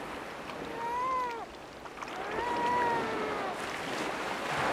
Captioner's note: seal pup crying